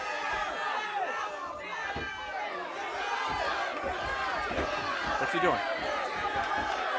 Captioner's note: crowd cheering